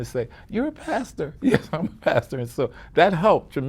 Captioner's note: chuckles